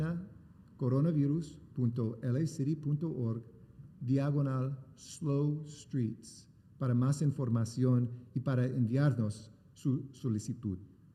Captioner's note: remarks in spanish; speaking spanish